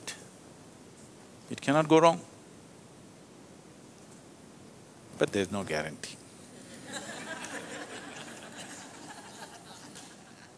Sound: laughter

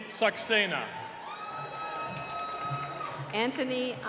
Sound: cheering

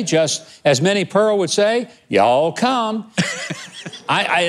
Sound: laughing

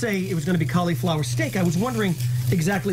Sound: sizzling

